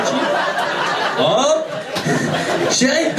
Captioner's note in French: rires public